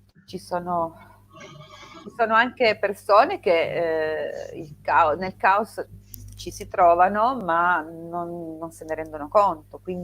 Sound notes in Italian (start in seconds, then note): none